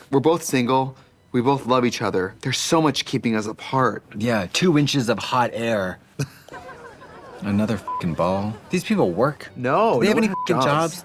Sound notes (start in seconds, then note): 7.8 beep